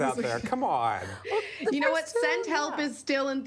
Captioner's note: laughter